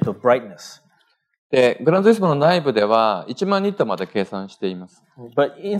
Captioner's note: speaking japanese